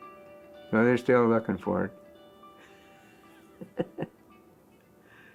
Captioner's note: laughs